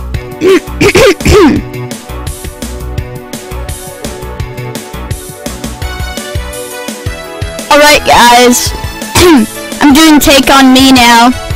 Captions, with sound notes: *clears throat* "Alright guys, *clears throat* I'm doing 'Take On Me' now,